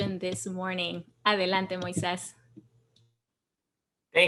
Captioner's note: speaks in Spanish